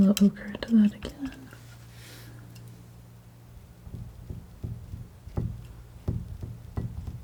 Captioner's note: tapping